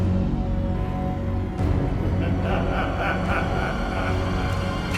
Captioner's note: music intensifies; man laughing